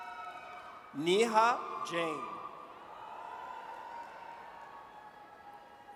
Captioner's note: audience cheers